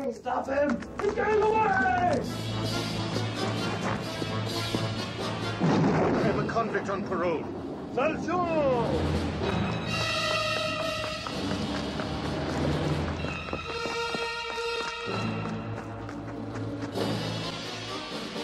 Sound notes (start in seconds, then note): 2.2 dramatic music; 5.4 gun blasts; 9.5 dramatic music